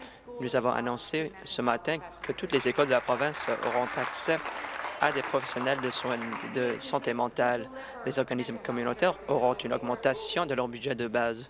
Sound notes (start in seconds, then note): 6.5 applause